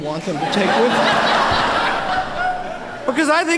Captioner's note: laughter